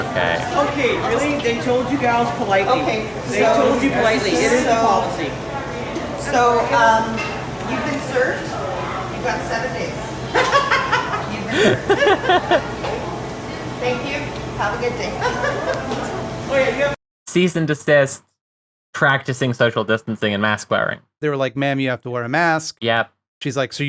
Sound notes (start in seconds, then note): 11.5 other customer laughs